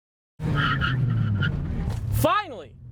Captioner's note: tires screeching